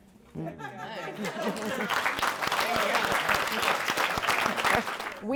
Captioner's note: audience claps